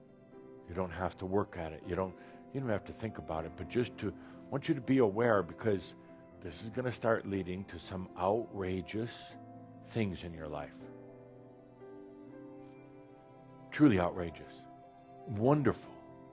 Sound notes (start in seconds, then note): none